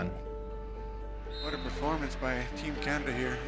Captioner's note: whistle